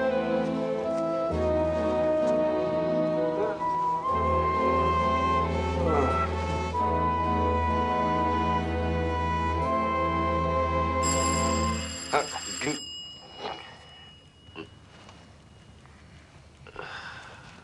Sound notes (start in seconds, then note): 11.0 doorbell rings